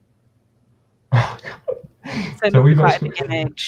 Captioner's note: chuckles